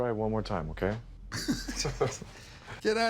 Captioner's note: laughing